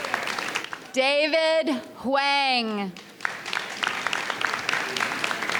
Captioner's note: audience applauds